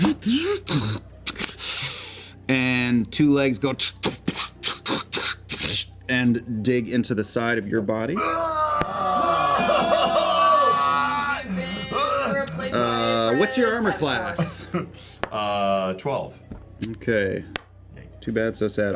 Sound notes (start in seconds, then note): 2.7 mechanical noises; 8.4 yelling